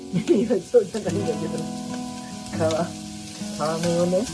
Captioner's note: laughs